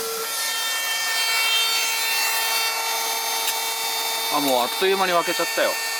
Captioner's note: small vacuum cleaner